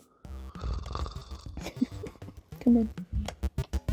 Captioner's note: snores